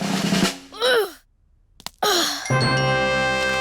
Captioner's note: drum roll; groans